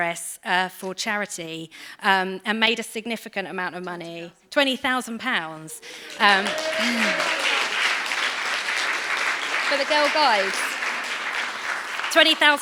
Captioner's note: applause